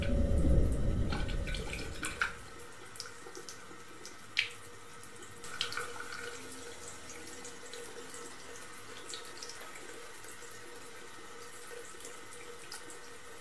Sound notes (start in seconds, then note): 3.4 water trickling